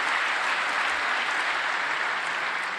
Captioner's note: applause